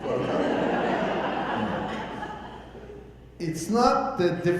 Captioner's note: audience laughing